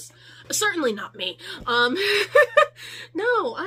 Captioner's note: um, laughter